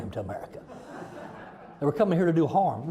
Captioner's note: audience laughing